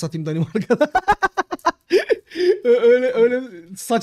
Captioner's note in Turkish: Gülüşmeler